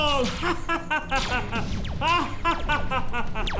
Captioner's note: evil laugh